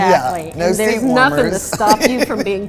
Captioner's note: laughing